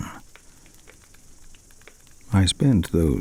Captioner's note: fire crackling and night insect buzzing